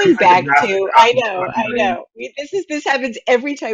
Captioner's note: voice muffling